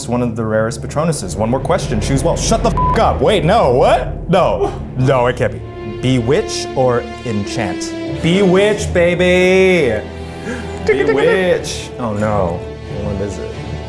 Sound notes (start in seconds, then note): 2.7 beep; 10.2 gasps